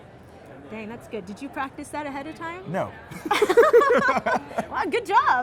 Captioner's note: both laugh